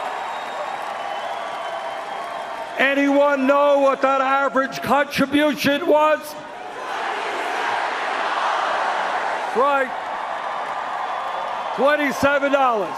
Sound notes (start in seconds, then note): 5.7 cheers and Applause